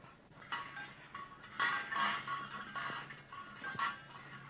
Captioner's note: metal clanking